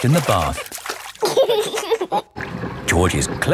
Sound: giggling

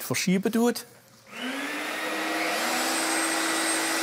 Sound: machine tools whirring

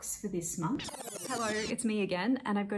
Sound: sound of a tape rewinding

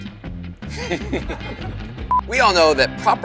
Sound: laughs

